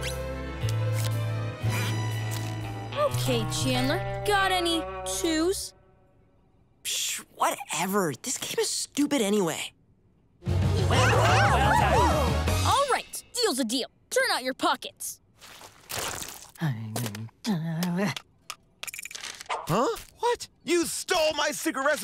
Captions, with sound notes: Okay, Chandler, got any twos? Pssh. Whatever. This game is stupid anyway. [cheering] Alright, deal's a deal. Turn out your pockets. [groaning] Huh? What?! You stole my secret recipe!